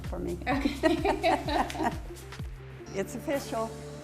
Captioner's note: both laugh